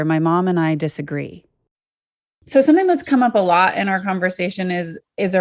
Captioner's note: on Zoom call